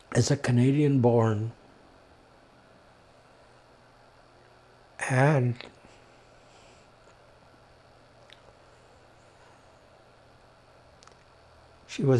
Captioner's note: pauses 6 seconds